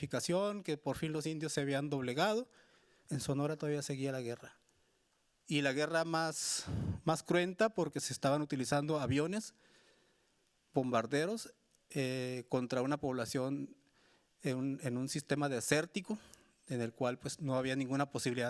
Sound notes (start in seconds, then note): 3.9 speaking Spanish continues